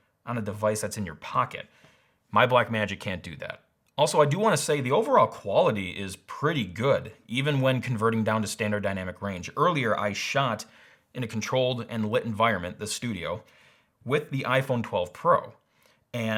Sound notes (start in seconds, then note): none